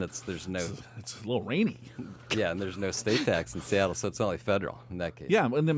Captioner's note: laughs